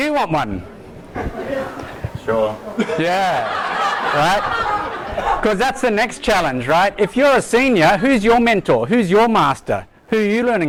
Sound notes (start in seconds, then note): 1.1 audience laughs; 2.6 voiceover